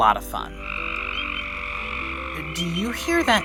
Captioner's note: frogs peeping and trilling